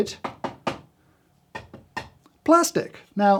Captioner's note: loud knocking